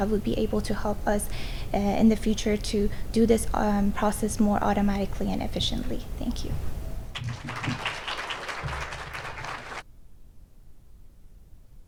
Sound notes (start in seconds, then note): 7.1 audience applauds